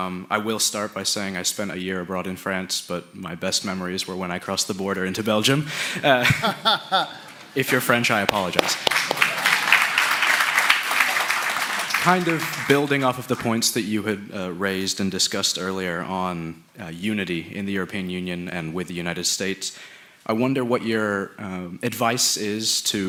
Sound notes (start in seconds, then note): 6.0 laughter; 7.6 applause